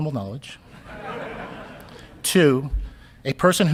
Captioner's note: audience laughing